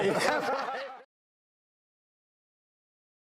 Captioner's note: laughing